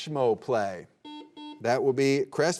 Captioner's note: buzzer beeping